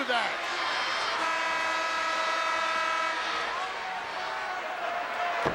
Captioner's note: buzzer blares